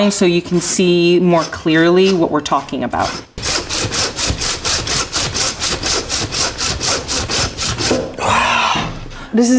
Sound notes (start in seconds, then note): 3.8 saw scraping; 8.1 sighing